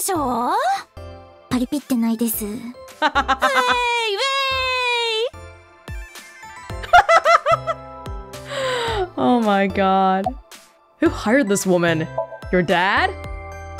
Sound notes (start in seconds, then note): 3.0 laughs; 8.4 laughs and sighs